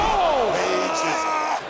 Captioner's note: commentators exclaim